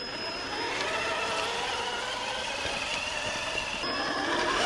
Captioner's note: engine roaring